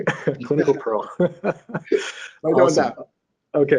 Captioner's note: laughing